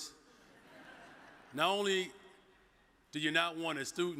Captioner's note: audience chuckles